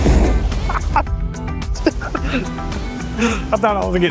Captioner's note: laughter